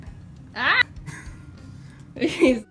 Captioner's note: lols